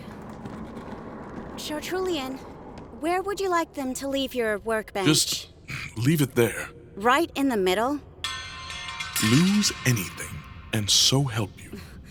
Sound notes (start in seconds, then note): 0.0 sound of cart rolling; 8.2 sound of clattering metal